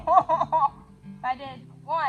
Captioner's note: evil laugh